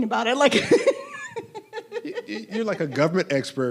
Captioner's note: laughing